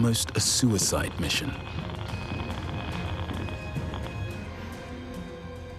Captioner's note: device beeping